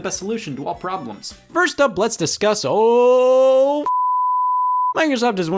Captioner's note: beep